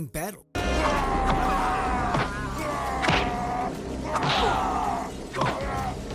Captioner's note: Brawl, Fender screams